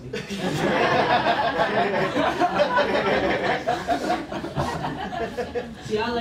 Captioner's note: laughter